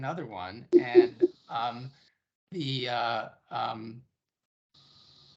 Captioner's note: chuckling